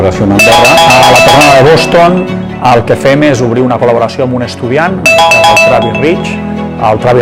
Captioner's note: phone ringing; speaks in foreign language